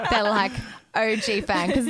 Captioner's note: laughing together